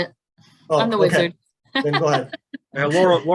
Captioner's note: laughs